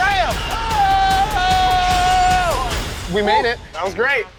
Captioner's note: screams